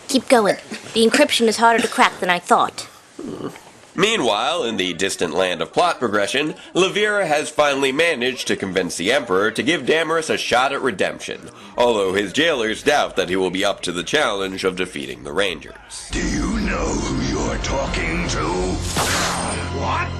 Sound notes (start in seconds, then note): 3.1 whimper